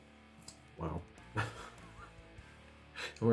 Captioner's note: laughs